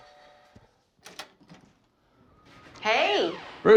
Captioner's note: door opens